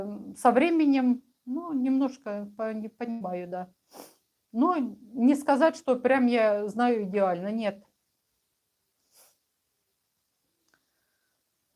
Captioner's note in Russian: фыркает